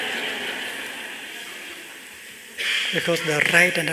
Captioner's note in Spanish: Risas